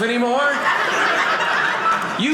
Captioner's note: audience laughing